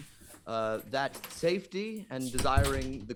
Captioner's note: something clatters off-camera; door clatters shut